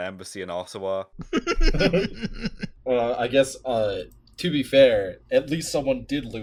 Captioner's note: laughter